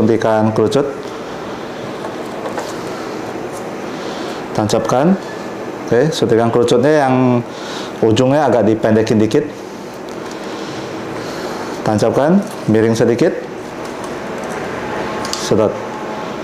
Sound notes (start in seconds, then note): 1.6 raising damper sound